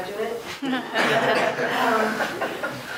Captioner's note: laughter